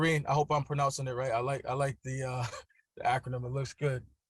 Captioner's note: laughs